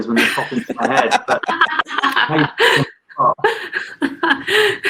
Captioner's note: everyone laughs